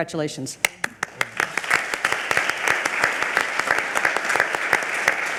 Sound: audience applaud

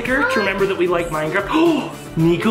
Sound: gasps

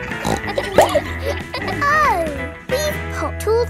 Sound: snorts

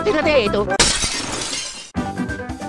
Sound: glass breaking sound

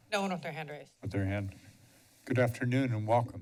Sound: pause

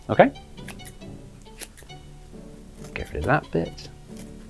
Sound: scissors snip

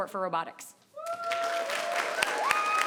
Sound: people cheering; people clapping

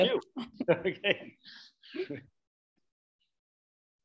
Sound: both laughing

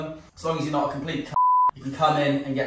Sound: beep

